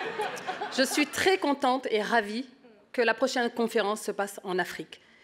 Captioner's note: speaks in French